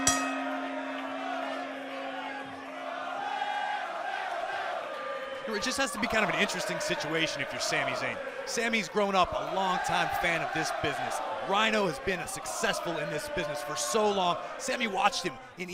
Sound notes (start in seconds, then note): 0.0 bell rings; 3.8 fans chanting